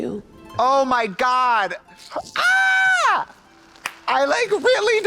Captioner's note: squalls